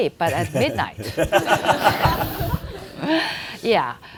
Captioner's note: audience laughing